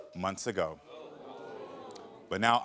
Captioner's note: audience groans